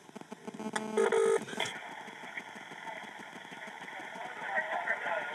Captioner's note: telephone ringing